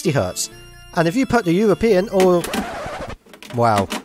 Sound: record scratch

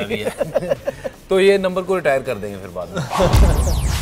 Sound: laughs

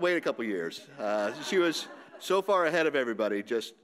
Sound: audience laughing

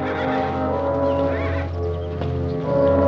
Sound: horse whinnies

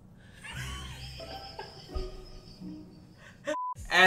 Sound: laughing

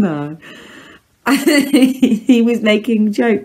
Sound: laughs

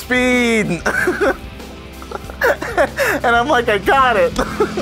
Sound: laughs

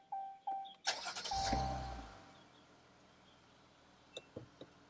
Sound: car engine roaring

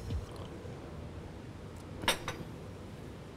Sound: slurps

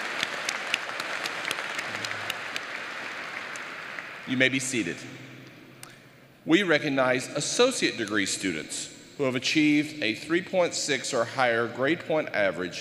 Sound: applause

